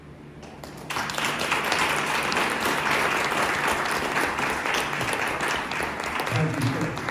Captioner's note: applause